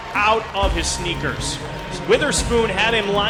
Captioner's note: crowd